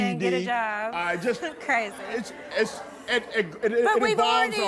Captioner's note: crowd grumbles